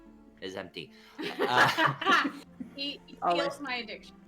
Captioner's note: laughs